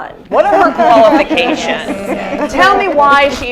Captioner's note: laughter